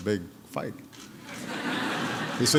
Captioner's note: laughter